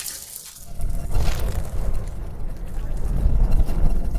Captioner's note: fire blazing